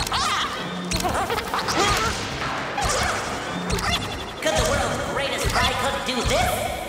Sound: shrieking; squeaking

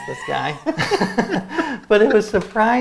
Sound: both laughing

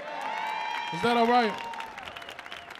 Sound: audience cheering

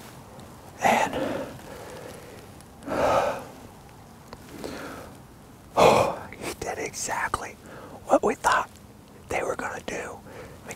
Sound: whispering

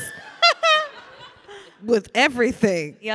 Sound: Ilana laughing

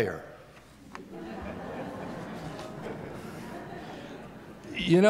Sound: laughter

